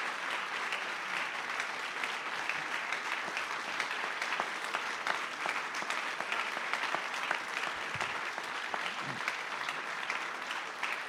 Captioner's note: applause